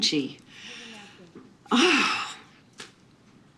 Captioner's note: exhales